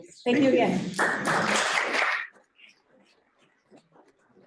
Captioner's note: applause